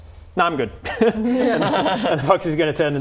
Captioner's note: laughing